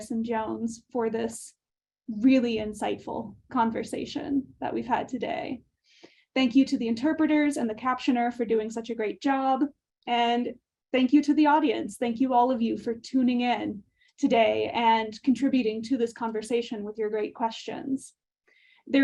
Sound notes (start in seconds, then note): none